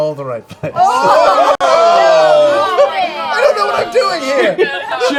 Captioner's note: groaning